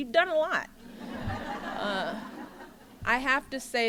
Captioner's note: laughter